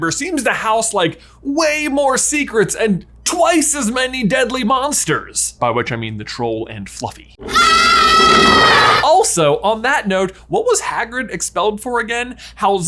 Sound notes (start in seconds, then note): 7.4 Fluffy growls; 7.4 kids scream